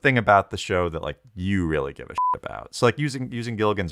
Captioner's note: beep